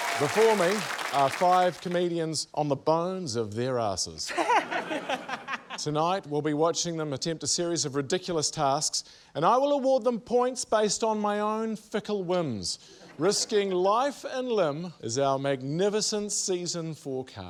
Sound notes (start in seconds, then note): 4.2 laughter